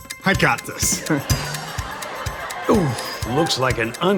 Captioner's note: crowd laughing